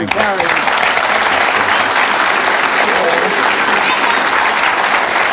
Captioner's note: audience applauds